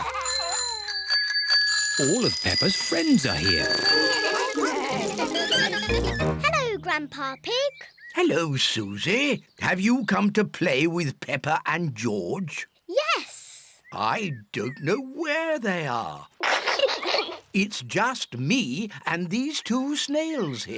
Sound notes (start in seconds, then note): 0.0 bells ring; 4.0 all chatter; 16.4 peppa pig and george laughing